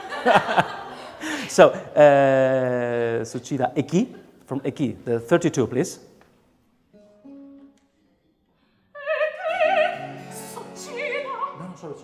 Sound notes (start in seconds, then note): 3.6 speaking song lyrics in a foreign language; 7.3 gentle music; 9.1 singing in a foreign language